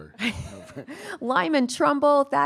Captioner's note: laughing